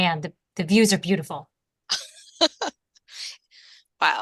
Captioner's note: laughter